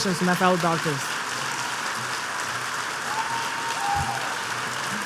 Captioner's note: applause